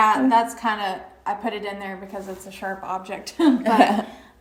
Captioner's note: chuckles